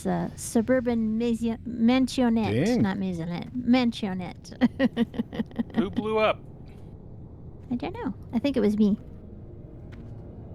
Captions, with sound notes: suburban mensionette-- Dang. Not mensionette. Mensionette. [LAUGHTER] Who blew up? I think it was me.